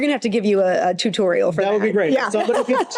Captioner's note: laughs